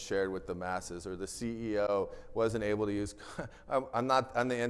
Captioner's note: chuckles